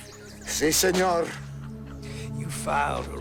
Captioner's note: Gonzalez speaking in foreign language